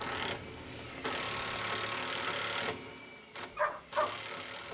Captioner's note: drill whirling